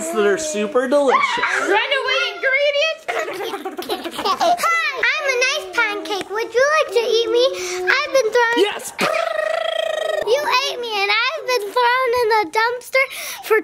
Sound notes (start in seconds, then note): 0.1 people exclaiming; 3.0 child laughing; 8.5 person exclaiming